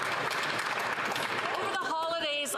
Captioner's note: some Applause